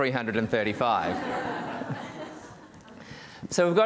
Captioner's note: audience laughing